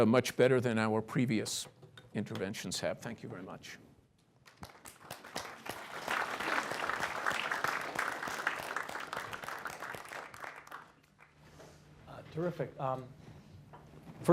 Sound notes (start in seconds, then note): 4.4 applause